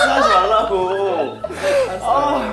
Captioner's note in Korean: 엉엉